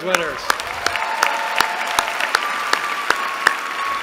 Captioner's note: applause